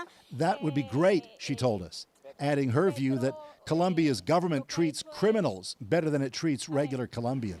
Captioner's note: speaking alternate language